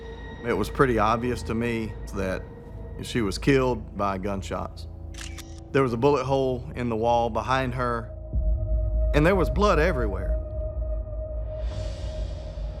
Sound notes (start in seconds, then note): 5.1 camera shutter clicks; 10.4 ominous music